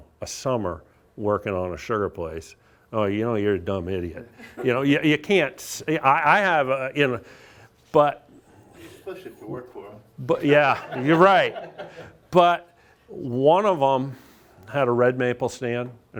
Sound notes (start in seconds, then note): 10.5 audience laughs